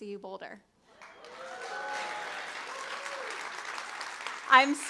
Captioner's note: crowd cheering